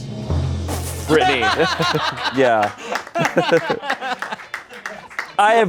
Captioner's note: laughter